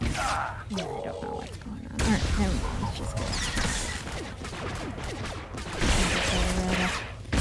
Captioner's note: gunfire